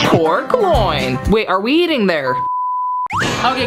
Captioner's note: production beeping